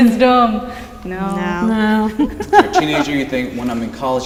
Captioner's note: laughter